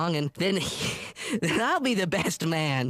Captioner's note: chuckles